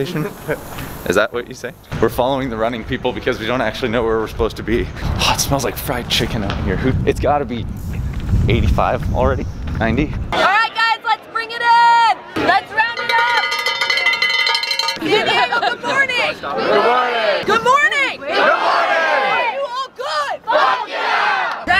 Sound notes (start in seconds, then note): 12.8 cowbell ringing; 16.6 crowd; 20.5 crowd